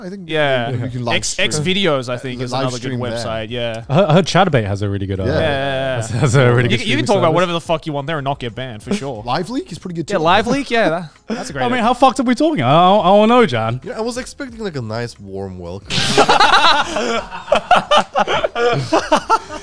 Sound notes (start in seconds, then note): 15.8 all laughing